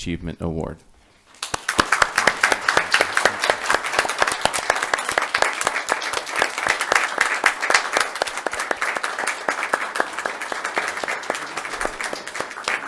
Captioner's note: applause